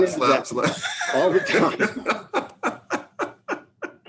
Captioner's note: laughing